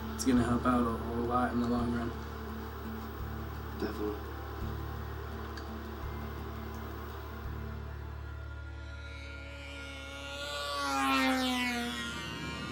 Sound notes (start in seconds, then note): 9.2 UAV buzzing